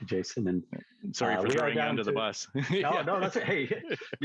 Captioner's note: laughs